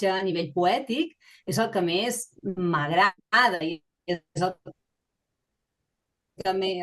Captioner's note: continues speaking in Catalan